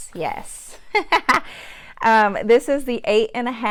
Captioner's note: laughs